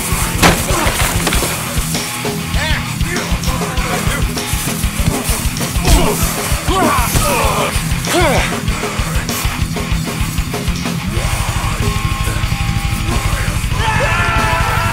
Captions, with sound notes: (tree branch cracking) (heavy metal music) - Eh. How about you? (fighting sound effects) - Uh. - Oh! (wilderness battle cries)